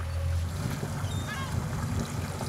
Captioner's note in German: Möwenkreischen